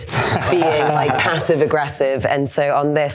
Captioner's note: laughs